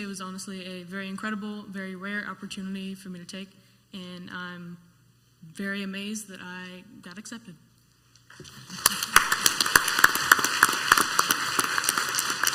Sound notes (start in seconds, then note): 8.7 clapping